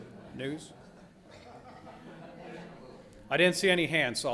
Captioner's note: audience chattering